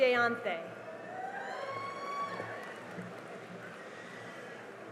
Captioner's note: cheering and applause